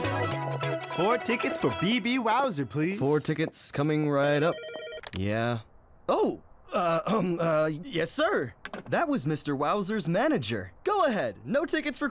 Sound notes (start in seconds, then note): 4.4 phone ringing